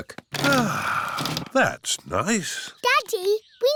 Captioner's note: sighs